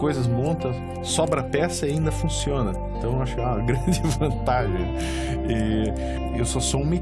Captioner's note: giggles